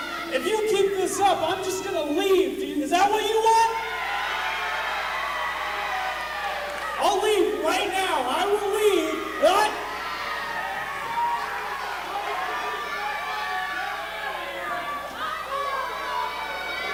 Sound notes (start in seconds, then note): 3.9 crowd cheers; 10.4 crowd yells and cheers